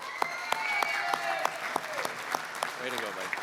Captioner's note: applause, cheering